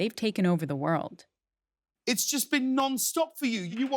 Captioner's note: soundbite of archived recording